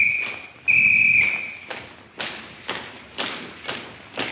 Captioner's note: whistle blares; footsteps click